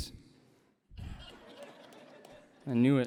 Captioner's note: laughter